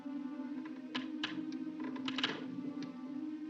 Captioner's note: door Opens